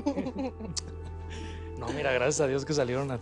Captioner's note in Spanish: Risas